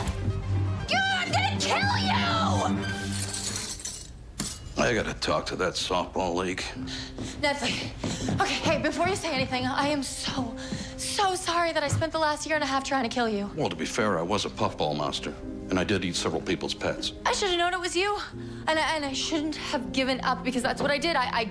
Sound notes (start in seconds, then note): 6.2 panting